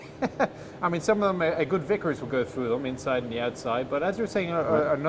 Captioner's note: laughs